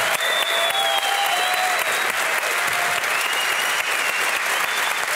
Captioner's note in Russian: публика аплодирует